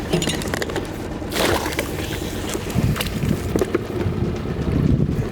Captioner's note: boat engine idling